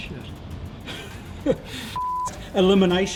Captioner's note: beep